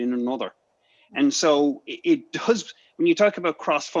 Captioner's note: chuckles